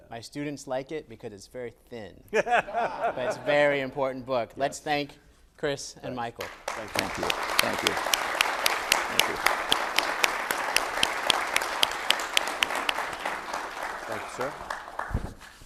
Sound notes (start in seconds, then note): 2.4 everyone laughs; 9.1 audience applauds